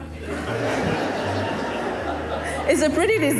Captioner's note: audience laughing